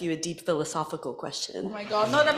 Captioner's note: laughter